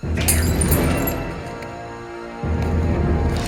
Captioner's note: glass shatters